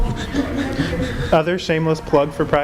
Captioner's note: chuckling